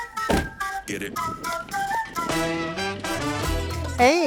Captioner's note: door slams